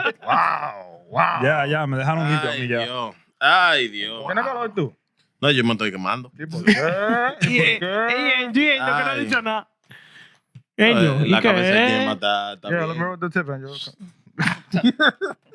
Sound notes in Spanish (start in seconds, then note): 5.0 Hablando en idioma extranjero; 6.5 Riendo